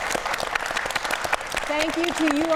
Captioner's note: audience applauding